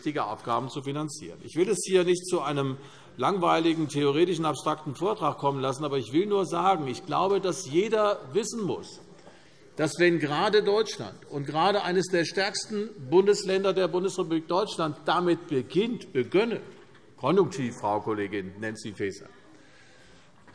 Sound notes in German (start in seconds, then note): none